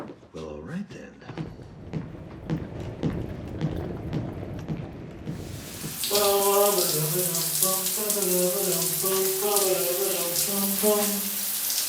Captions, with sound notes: Well, all right, then. [footsteps thudding, wheels rumbling] [humming happily]